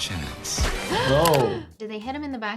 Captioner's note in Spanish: jadea